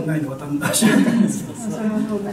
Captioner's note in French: rires